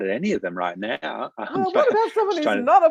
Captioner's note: both laugh